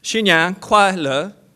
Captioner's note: foreign language